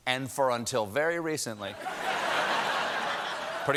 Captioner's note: laughter